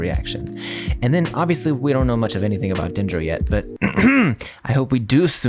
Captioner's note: ahem